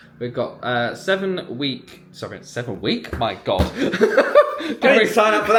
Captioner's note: laughs